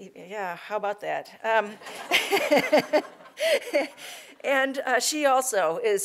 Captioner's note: laugh